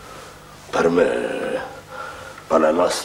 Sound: speaks Italian

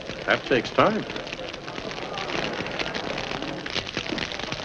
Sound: fire crackling

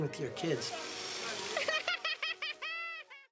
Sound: child laughing

